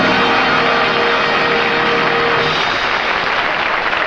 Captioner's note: applause